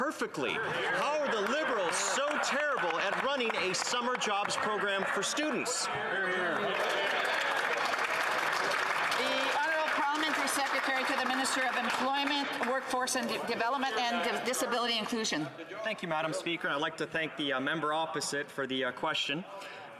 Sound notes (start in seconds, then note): 13.8 some applause